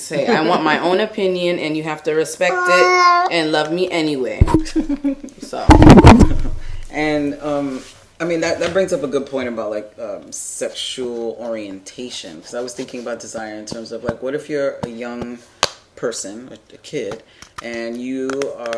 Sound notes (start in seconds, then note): 4.5 laughing